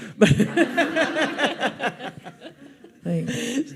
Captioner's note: audience laughs